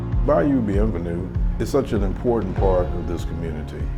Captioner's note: voiceover